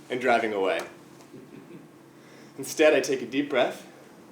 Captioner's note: laugh